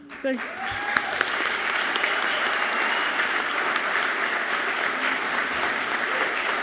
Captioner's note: audience clapping and cheering loudly